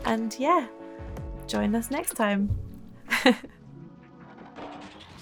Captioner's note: chuckling